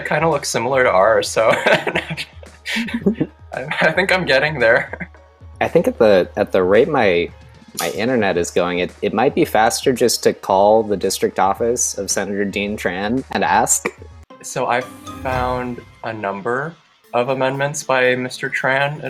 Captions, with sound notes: kind of looks similar to ours. So (chuckling) I think I'm getting there. - I think at the rate, my internet is going, it might be faster just to call the District Office of Senator Dean Tran and ask. - So I found a number of amendments by Mr. Tran.